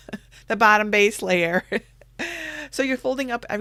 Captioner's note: laughs